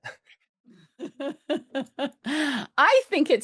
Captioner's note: laughs